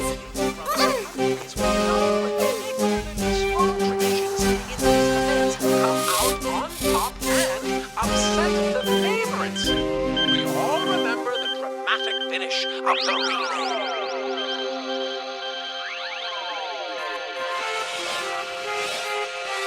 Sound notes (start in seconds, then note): 0.2 enchanted whimsical music; 7.7 camera beeping; 13.3 beeping; 16.3 suspenseful music